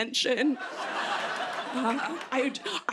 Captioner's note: laughter